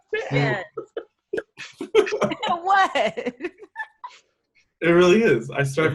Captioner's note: all softly giggling